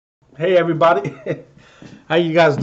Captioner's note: man laughs